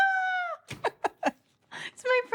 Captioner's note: chuckles